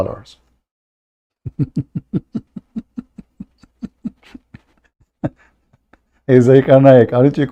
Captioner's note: Ketawa